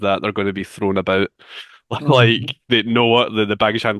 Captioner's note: chuckles